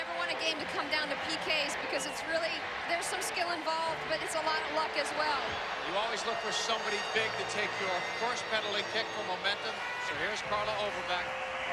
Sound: tv announcer

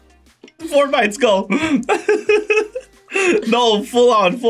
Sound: laughs

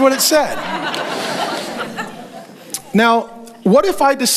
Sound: congregation laughs

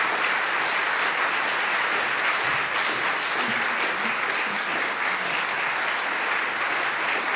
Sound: applause

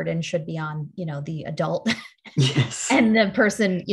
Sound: laughs

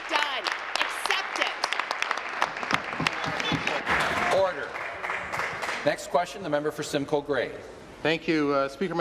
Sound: applause

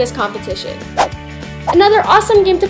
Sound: whoosh

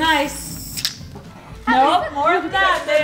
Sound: can spraying

